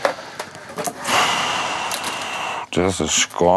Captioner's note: he exhales loudly